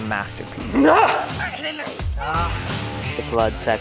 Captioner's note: shrieks